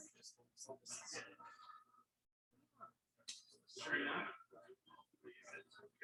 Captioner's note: people chattering indistinctly